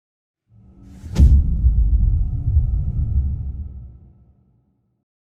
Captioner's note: dramatic sound